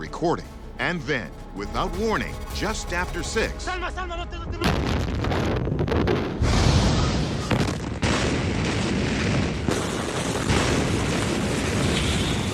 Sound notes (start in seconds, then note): 3.5 explosions booming; 3.5 recorder shouting; 9.2 explosions booming; 9.2 glass shattering